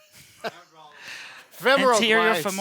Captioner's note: both laugh